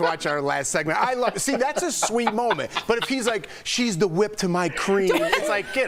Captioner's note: laughter